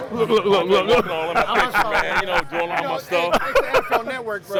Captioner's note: laughing